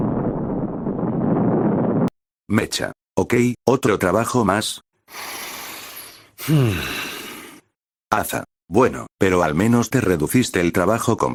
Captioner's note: breath_01